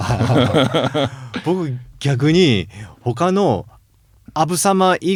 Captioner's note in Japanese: 笑い